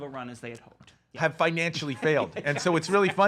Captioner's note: laughs